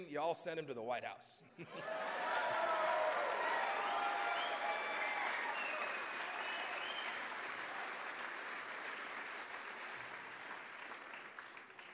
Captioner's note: cheers and applause